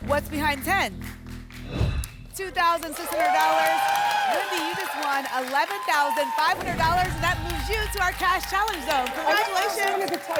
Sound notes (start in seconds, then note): 1.6 whoosh